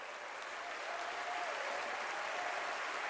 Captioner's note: applause